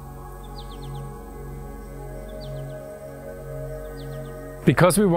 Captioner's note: birds chirping; serene music